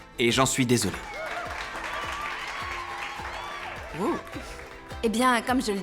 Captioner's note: applause, cheering